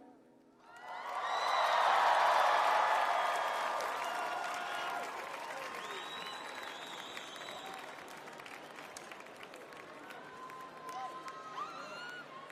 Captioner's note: crowd cheering